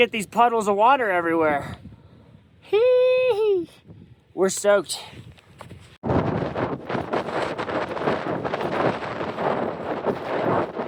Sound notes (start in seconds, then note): 6.0 wind Blowing